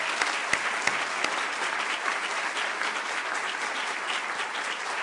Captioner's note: applause